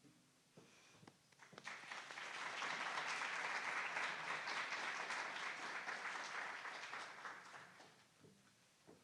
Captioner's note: applause